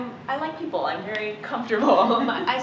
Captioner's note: laughter